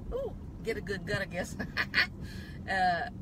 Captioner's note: laughs